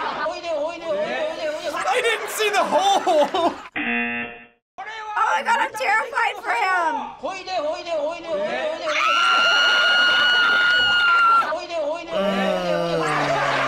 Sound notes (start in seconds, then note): 8.8 screaming; 12.1 groaning